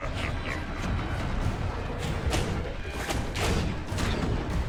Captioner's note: battle sounds